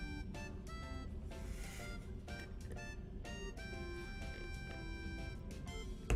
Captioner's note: silently giggling